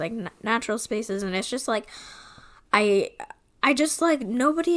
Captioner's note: stammering